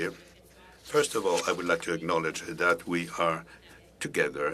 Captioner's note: speaking French